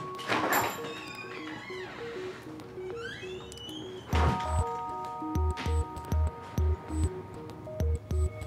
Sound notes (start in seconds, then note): 0.1 door squeaking; 0.8 bell dinging